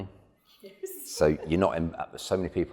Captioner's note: laughing